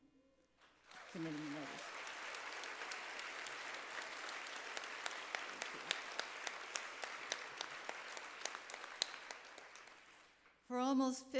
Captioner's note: applause